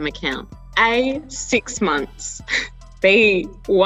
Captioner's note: laughing